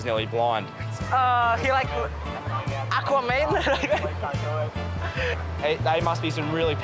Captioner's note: laughs